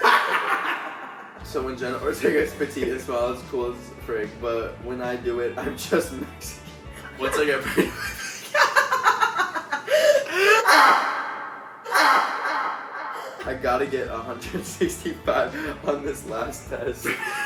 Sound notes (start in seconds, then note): 8.6 laughing